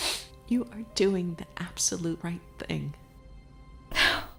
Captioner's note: sobs